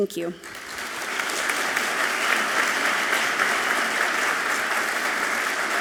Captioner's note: audience clapping loudly